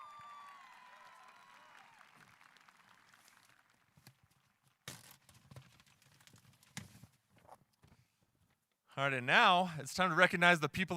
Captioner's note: applause